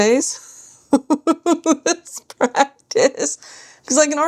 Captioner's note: laughter